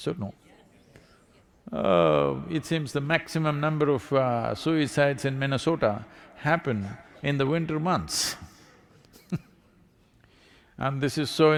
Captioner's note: laughs